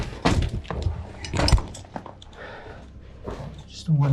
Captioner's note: boots clunking